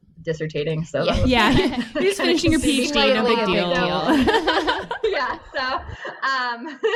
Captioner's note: sarcasm, laughter